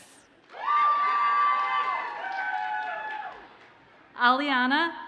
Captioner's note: audience cheers and applauds